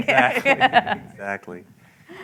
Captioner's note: laughter